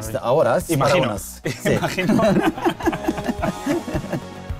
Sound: laughing

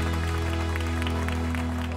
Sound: cheers and applause

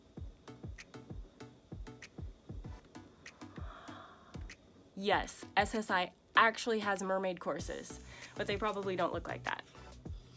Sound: sigh

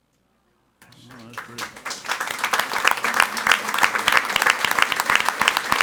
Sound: audience applauding

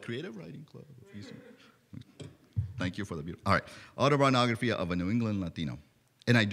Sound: laughter

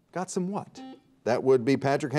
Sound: buzzer beeps

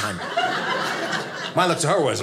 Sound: audience laughing

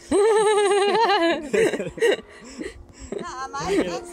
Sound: laughing

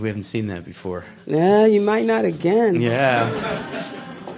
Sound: crowd laughs

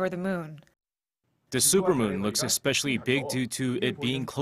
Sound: Korean

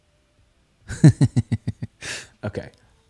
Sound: laughing

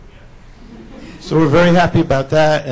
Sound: laughs

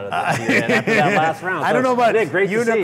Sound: laughs

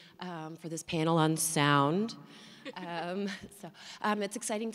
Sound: laughter

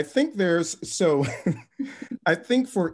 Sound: laughs

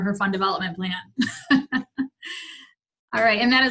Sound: laughs

